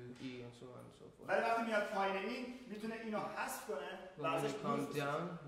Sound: speaking in farsi

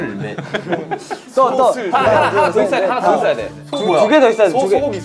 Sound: laughing

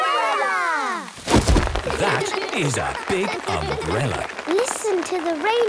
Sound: big umbrella opening; raindrops pitter-pattering

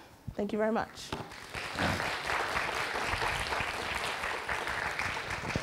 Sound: audience clapping

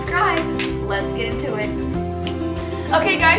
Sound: snaps fingers

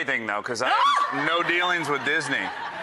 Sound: shrieks

